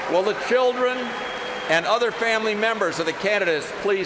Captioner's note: applause